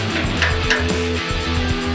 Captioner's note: upbeat music; metals clanking; upbeat music